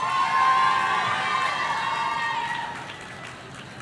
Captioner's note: audience cheering